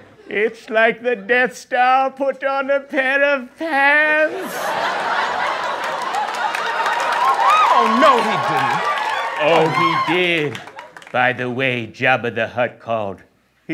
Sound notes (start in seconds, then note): 4.2 laughter